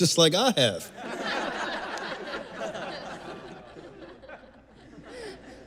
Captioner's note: risadas da plateia